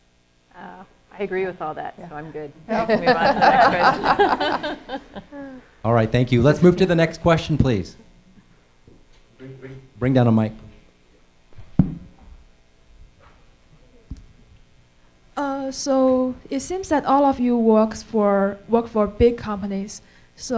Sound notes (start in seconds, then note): 2.6 laughing